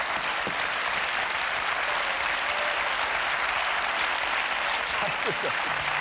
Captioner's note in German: Applaus